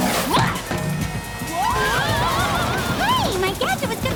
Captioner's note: thud